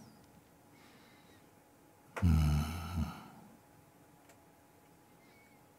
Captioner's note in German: Stille